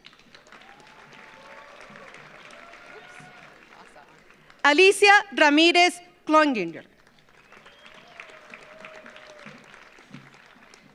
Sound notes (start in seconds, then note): 0.0 audience applauds; 6.8 audience applauds